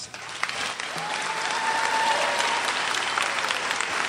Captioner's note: crowd applauds